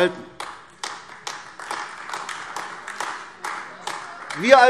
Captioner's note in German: Beifall AfD